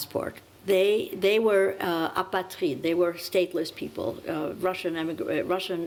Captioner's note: french